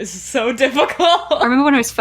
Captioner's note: laughs